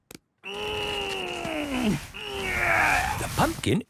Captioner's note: straining